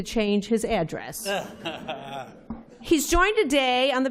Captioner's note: laughter